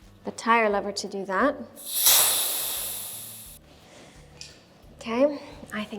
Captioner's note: air releases